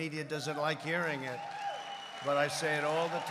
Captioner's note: applause